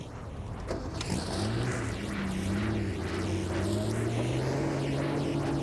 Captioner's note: car engine rumbling